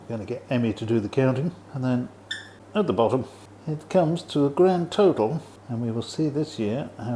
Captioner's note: squeek